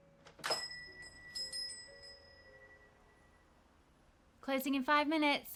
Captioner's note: door bell jingles